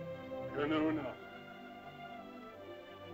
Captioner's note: soft music; Loana's father speaks in caveman language; soft music